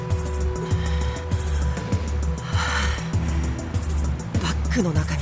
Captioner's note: labored breathing